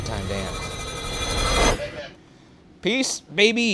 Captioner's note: muffled talking on walkie talkie